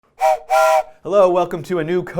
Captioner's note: train whistle